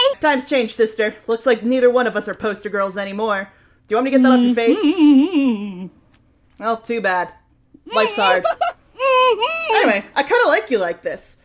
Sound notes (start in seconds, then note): 7.8 laughs; 8.2 Lilith continues mumbling, getting louder